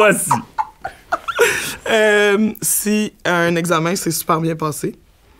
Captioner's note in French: éclat de rire